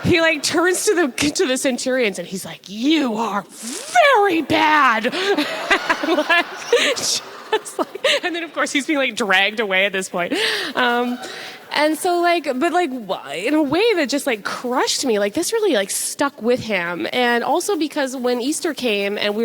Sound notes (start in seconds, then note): 3.8 audience laughs